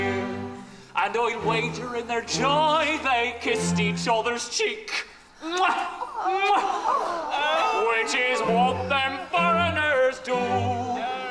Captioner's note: comedic kissing noise